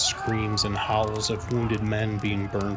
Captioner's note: soldiers screaming